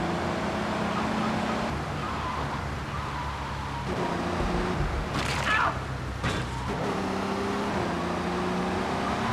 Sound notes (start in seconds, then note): 0.8 sirens wailing